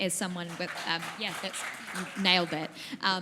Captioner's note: audience applause